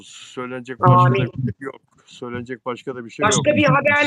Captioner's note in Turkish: homurdanır